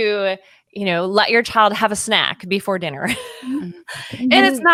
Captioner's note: laughs